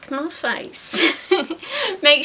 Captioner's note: giggles